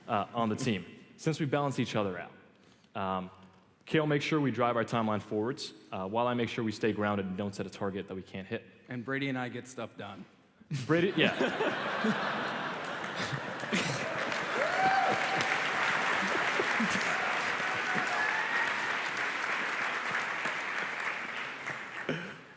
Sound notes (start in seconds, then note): 10.8 laughter; 14.4 applause